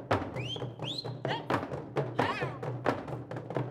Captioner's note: drums beating faster; whistling; drums beating faster